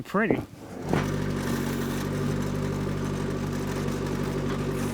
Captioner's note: skid-steer whirring